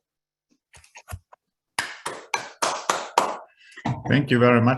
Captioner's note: applause